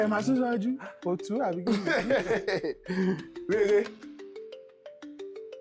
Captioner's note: laughs